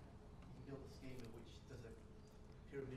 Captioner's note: voiceover